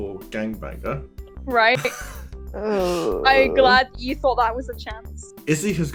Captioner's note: pained groan